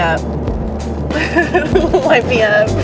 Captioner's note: laughs